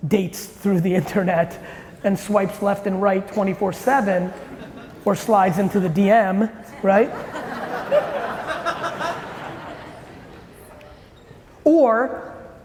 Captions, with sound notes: dates through the internet and swipes left and right 24/7, or slides into the DM. (audience laughing)